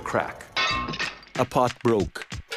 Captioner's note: pottery shattering